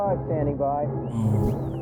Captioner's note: beep beep